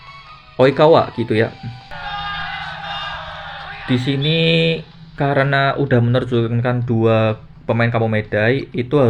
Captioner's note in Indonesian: berteriak